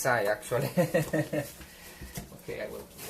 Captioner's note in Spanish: risas